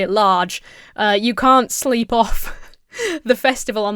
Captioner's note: chuckles